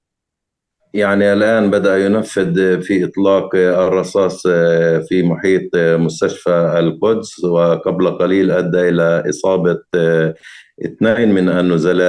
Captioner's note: speaking arabic